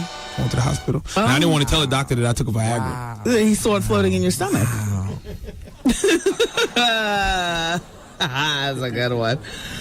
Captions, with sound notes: Went to the hospital. And I didn't want to tell a doctor that I took a Viagra. He saw it floating in your stomach. Wow. (laughs) I was like, "I got one."